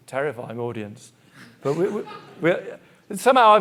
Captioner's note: audience laughing